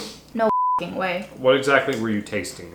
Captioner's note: beep